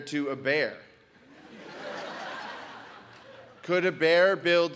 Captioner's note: audience laughs